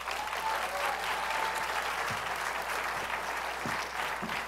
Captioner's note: applause